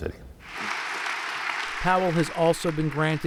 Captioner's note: audience applause